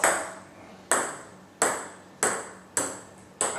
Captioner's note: ball ping pong hitting